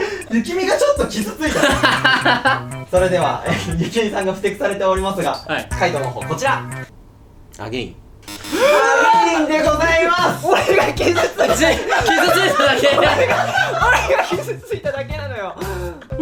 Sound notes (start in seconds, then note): 0.0 laughs; 8.5 gasps